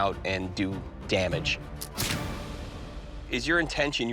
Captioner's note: gunshot